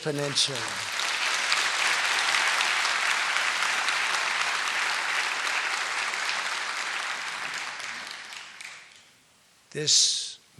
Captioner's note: applause